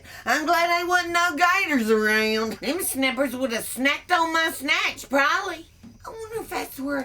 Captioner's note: none